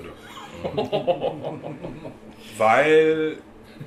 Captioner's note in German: lachen